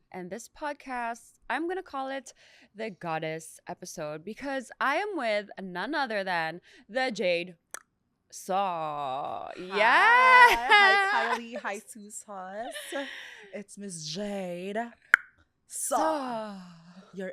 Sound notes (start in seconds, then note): 7.7 tongue clicks; 9.5 laughs; 15.1 tongue clicks